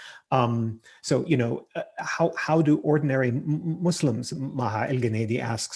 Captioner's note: murmurs